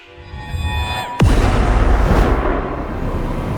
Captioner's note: dramatic music; crash